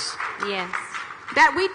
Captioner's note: audience clapping